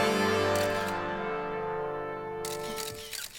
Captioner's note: cameras clicking